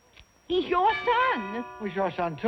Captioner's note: doorbell